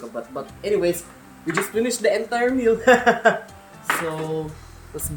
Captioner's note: laughs